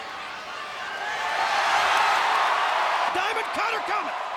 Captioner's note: audience cheering